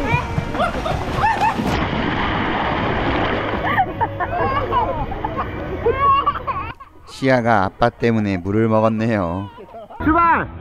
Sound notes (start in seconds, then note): 3.6 laughing; 5.4 crying